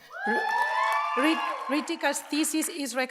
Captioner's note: audience cheers and applauds